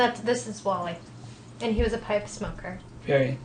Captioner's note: voiceover